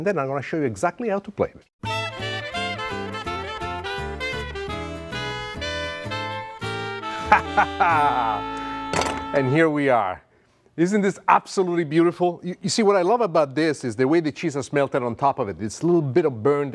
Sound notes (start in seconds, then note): 1.8 upbeat instrumental music; 7.1 laughs heartily